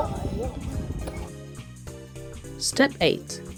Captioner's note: squeeks???